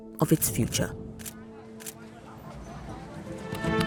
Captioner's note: people chattering, echoing